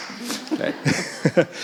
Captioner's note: audience laughing